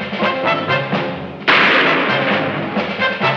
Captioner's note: shot firing